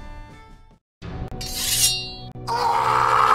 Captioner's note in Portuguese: som de espada; grito